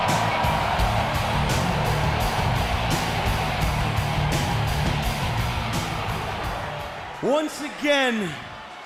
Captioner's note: crowds cheering